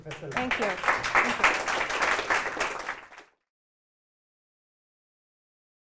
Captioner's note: applause